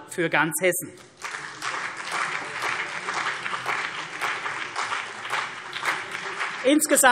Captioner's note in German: Beifall CDU und BÜNDNIS 90/DIE GRÜNEN